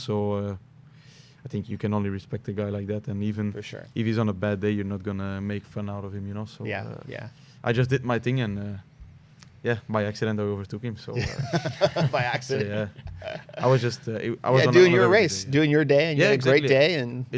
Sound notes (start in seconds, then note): 11.1 laughter